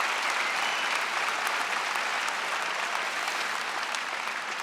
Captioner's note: audience applauds; audience member whistles